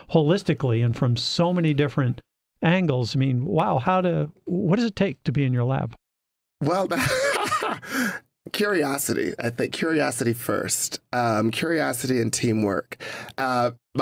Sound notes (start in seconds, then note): 6.9 laughter